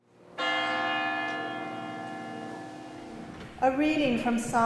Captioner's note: bell tolls